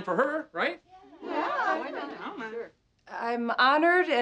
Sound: women agreeing

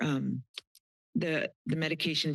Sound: tongue clicks

